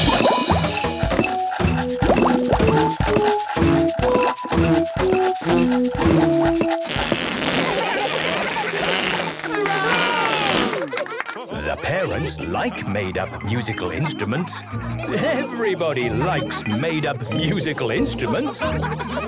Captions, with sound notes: - (all instruments playing) - (balloon squealing) - (children laughing) - (applause, cheering) - The parents like made-up musical instruments! Everybody likes made-up musical instruments!